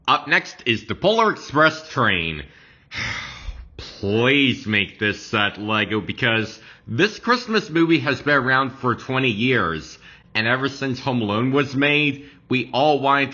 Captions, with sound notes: Up next is the Polar Express train. [Sighs] Please make this set, LEGO because this Christmas movie has been around for 20 years. And ever since Home Alone was made, we all wanted